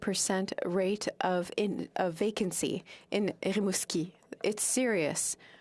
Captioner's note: speaking French